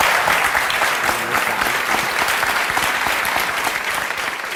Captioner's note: audience applause